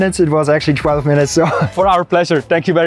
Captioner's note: laughs